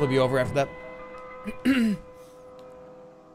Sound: clears throat

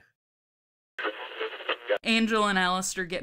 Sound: radio tuning noise

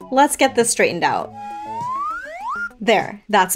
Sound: slide whistle effect

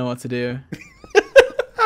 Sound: laughing

